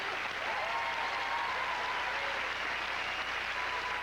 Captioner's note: loud cheers